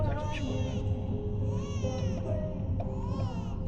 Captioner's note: babies cries